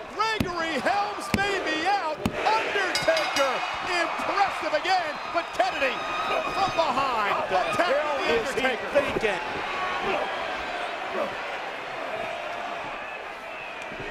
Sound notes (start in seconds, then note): 2.9 bell rings